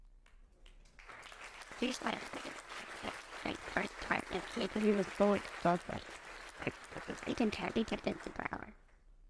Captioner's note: applause